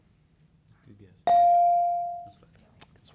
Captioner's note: beep